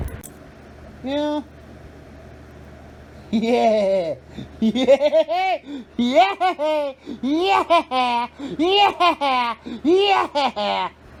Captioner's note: Ella laughs and giggles